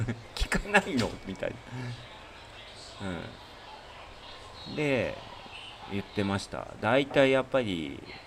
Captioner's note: laughs